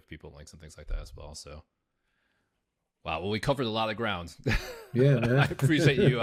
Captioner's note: laughs